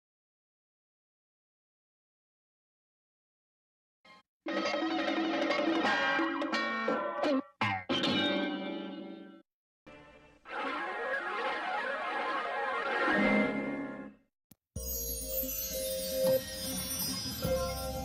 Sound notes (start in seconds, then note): 0.2 silence; 4.4 cartoon sounds; 10.4 analog synth swirling sounds; 14.8 magical music plays